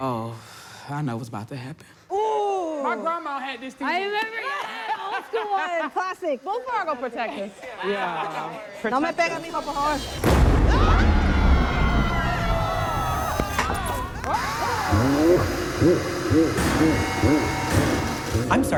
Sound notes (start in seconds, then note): 9.2 speaks in foreign language; 10.0 loud explosion banging; 10.6 everyone screaming; 15.5 monster laughs scarily